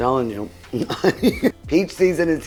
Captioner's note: laughing